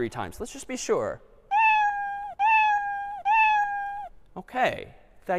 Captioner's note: three meows